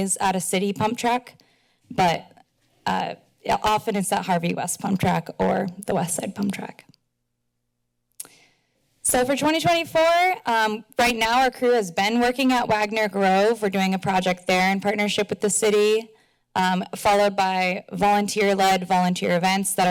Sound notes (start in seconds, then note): 8.2 clicks tongue